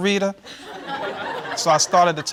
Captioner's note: audience laughing